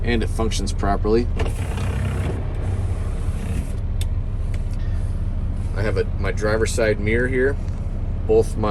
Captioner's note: window winding